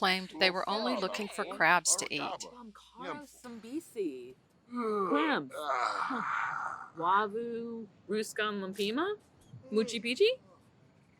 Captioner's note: in Simlish: moochie byutee